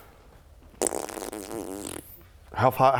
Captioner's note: indecisive farting